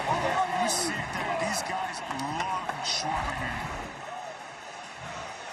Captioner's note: cheering